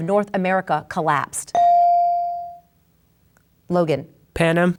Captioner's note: bell dings